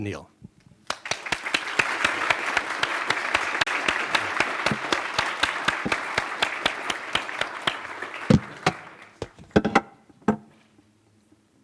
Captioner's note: applause